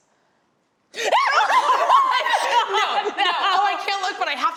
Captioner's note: all laugh